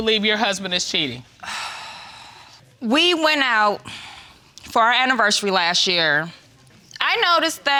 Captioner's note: sighs